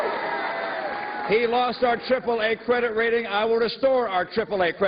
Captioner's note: cheers and applause